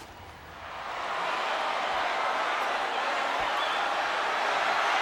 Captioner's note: audience cheering